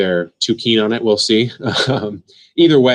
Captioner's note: laughs